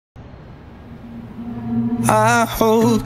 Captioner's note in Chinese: 城市嘈雜